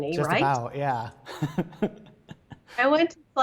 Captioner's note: laughing